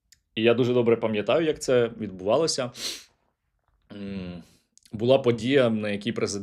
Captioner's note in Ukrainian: сопіння